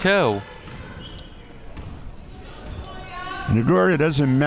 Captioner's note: crowd murmuring